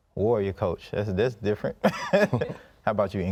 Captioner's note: laughs